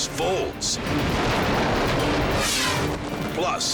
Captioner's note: air whooshes; building clashes